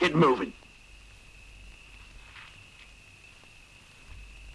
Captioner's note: insects chirring